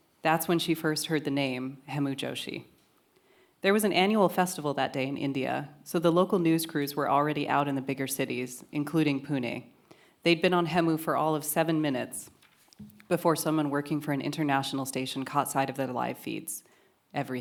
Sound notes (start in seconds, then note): none